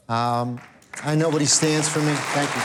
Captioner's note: crowd clapping